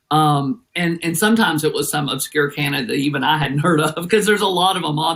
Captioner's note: laugh